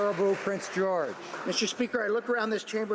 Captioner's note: some Applause